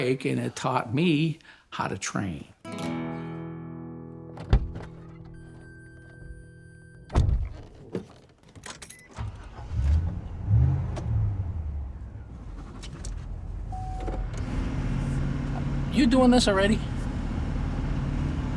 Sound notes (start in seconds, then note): 2.6 guitar strum; 4.4 car door thudding; 4.4 car beeping; 9.2 car engine revving